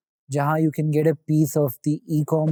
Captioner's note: speaking in Hindi